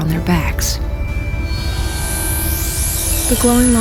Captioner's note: electronic whining and swirling